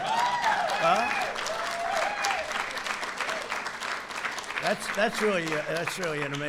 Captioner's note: applause